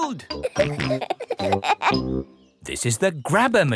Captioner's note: peppa and george laughing